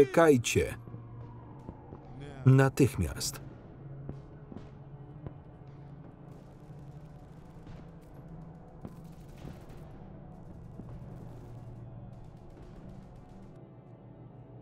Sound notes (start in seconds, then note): 5.8 guns firing; 5.8 ominous music